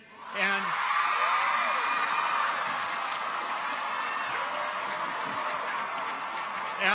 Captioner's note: people cheer; audience applauds